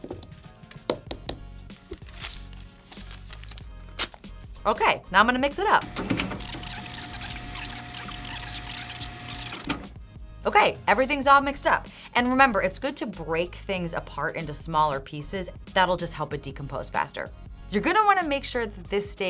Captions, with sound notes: Okay, now I'm gonna mix it up. [fast forward sounds] Okay, everything's all mixed up. And remember, it's good to break things apart into smaller pieces. That'll just help it decompose faster. You're going to want to make sure that this